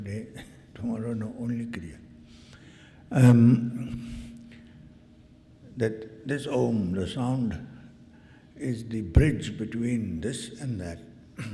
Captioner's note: clears throat